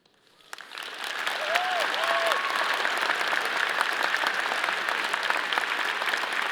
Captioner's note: all applauding; all cheering